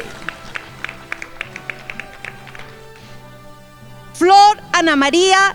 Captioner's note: crowd applauding